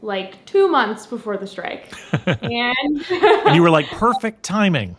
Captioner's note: laughs